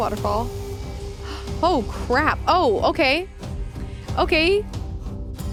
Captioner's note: gasps